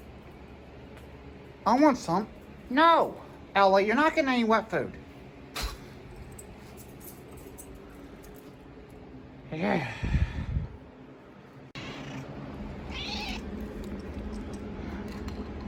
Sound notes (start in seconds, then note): 12.8 Caprice meows